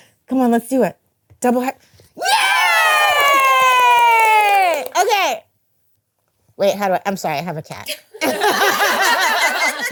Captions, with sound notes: Come on, let's do it. Yay! [Cheering] OK. I'm sorry, I have a cat. [Laughing]